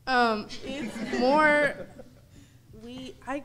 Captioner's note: audience laughing